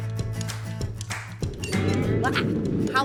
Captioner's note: fire roaring out